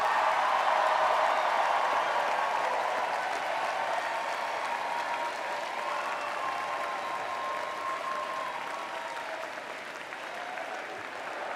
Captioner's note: cheers